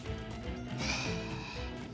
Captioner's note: electric shock